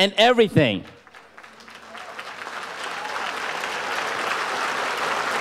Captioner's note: audience applauds